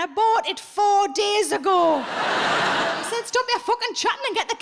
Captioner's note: audience laughs